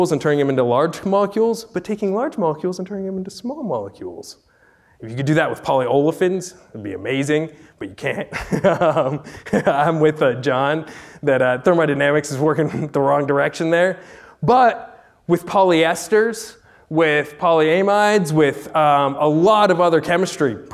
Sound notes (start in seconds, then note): 8.3 laughs